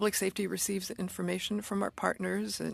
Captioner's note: speaking French